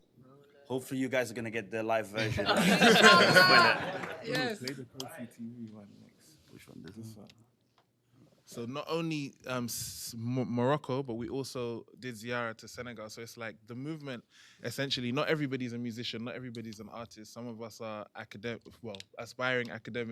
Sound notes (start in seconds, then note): 11.0 non-english